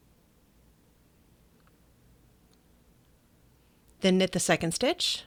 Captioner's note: silence